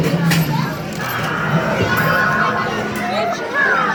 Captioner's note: machine chiming